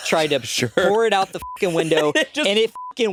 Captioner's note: beeping